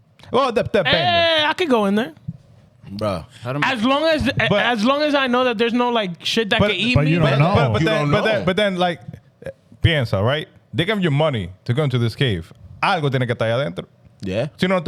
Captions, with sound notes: Hey, I could go in there. Bro. As long as I know that there's no shit that could eat me. But then, like, Pienza, right? They give you money to go into this cave. (Speaking In Foreign Language) Yeah.